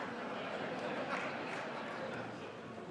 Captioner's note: laughter